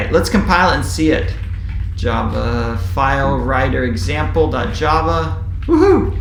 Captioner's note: keyboard typing sound